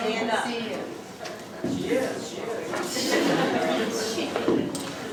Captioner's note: crowd talking